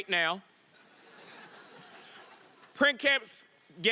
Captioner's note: audience laughing